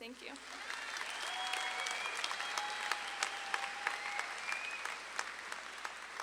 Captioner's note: audience claps and cheers